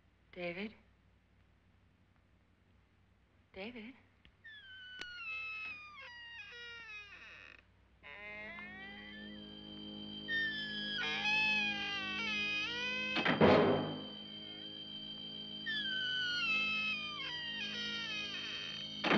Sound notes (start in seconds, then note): 4.4 door creaks; 13.1 door closes; 15.7 door creaks